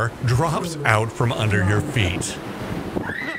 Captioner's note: screaming!